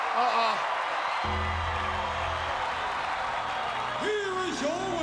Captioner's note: applause